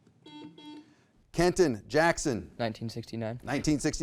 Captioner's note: buzzer beeping